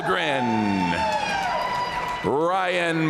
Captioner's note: audience cheering and applauding